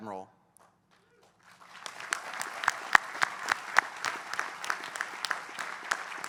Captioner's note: applause